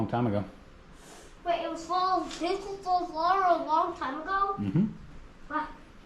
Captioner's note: um hmm